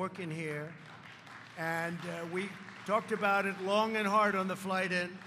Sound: applause

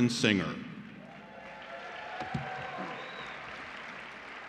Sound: cheering

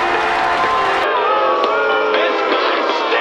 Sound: boos from the audience

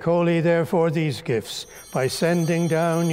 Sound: bell ringing

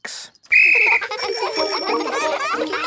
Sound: blows whistle; giggling and ringing bells

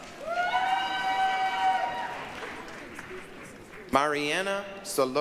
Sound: applause, cheering

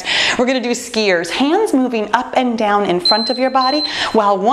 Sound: timer beeping

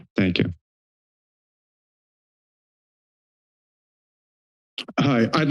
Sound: silence

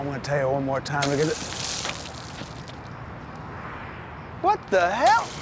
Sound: water sprays

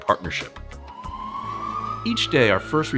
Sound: ambulance sirens blare

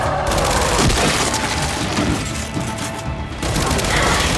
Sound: gun fires

